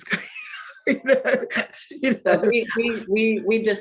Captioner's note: woman chuckling